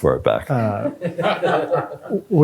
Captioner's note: laughter